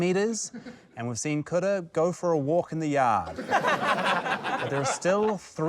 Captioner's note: laughter